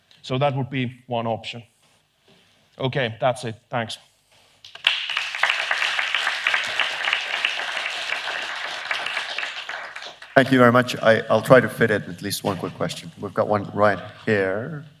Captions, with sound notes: So that would be one option. Ok that's it. Thank you." *Applause.* "Thank you very much I'll try ... to fit at least one quick question. We've got one right here.